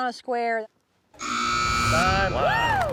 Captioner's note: buzzer sound